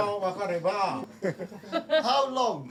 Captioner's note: speaks Japanese